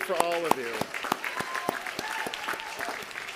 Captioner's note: applause